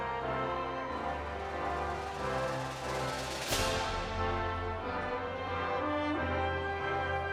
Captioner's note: audience continues applauding and cheering